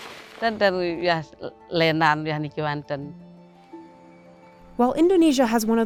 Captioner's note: speaking foreign language